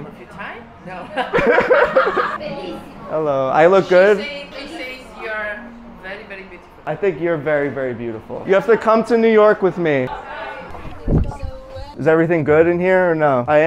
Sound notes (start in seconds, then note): 1.1 everyone laughing; 2.8 person speaking Italian